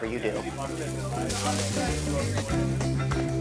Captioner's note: sizzling